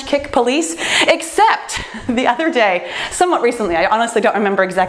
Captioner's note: laughs